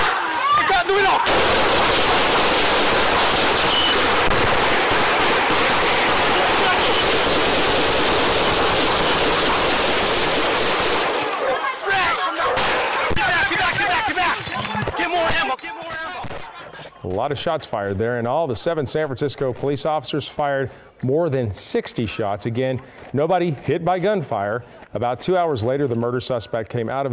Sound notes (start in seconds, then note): 5.7 shouting; 7.5 gunfire